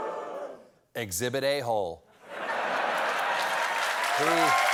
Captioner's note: laughter; audience reacts; applause